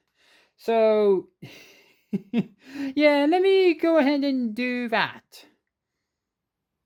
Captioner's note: chuckles